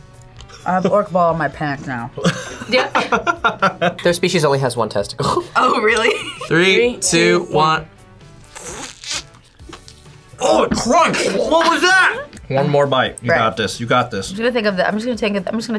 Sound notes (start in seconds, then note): 0.1 laughs; 2.2 laughs; 5.2 laughs